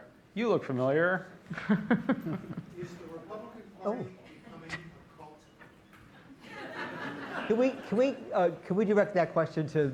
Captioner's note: laughter